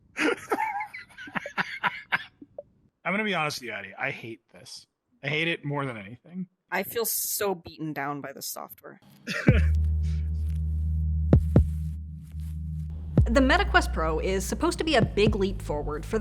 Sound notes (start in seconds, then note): 0.1 laughs